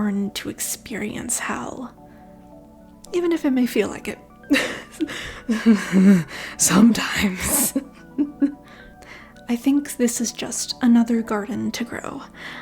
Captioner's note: chuckle of despair